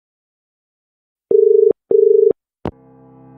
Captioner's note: dial tone